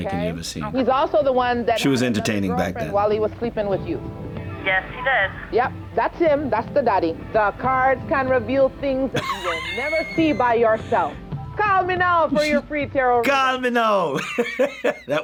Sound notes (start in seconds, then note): 9.1 laughs; 14.1 laughs